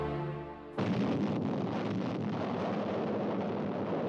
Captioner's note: bomb exploding